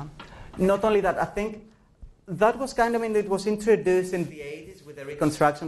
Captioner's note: professor speaking